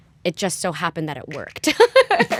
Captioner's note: laughter